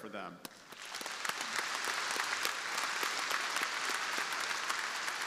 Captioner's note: crowd applauding